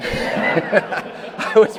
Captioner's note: attendees laughing